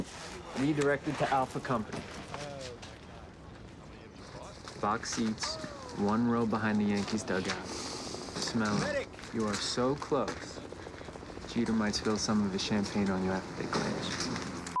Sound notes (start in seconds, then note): 7.5 sniffs